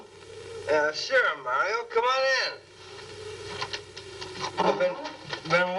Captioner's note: slurring